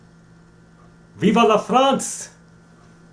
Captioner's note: speaking in French